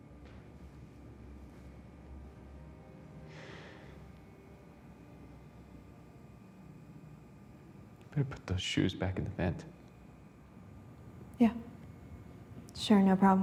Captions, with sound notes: [Sighs] Better put those shoes back in the vent. Yeah. Sure, no problem.